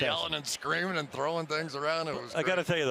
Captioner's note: laughs